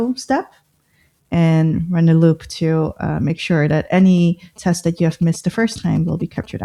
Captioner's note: uh